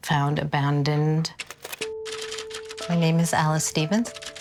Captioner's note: typewriter keys clacking